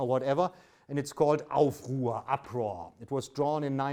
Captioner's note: speaks in German